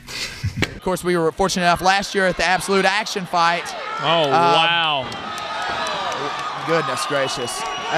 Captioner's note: crowd cheers